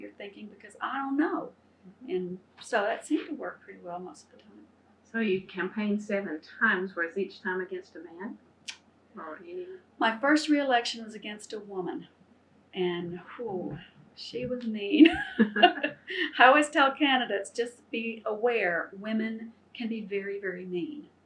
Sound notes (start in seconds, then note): 15.0 laughter